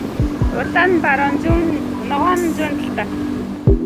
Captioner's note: mongolian